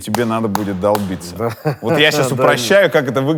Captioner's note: laughs